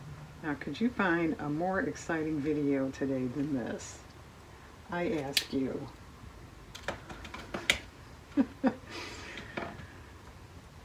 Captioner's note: laughs